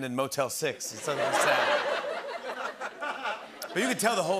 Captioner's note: laughter